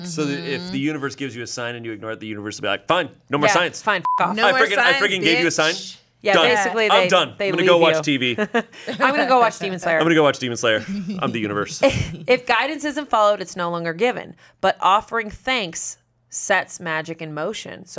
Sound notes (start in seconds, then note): 4.0 beep